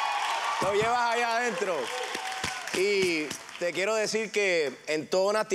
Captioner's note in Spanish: exclamaciones